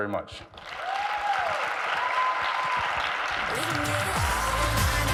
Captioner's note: audience applauds